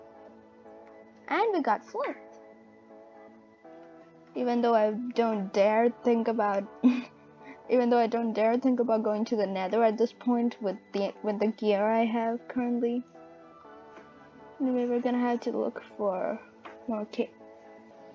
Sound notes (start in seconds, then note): 6.8 laughs